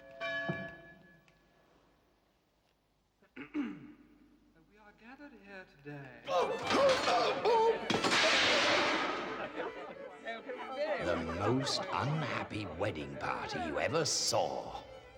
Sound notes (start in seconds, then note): 6.7 groaning; 7.8 crashing; 9.7 people murmuring